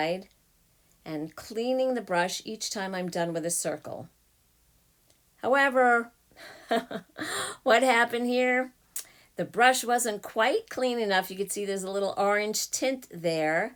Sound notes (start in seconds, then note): 6.4 chuckle